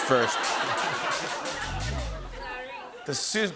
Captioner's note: laughter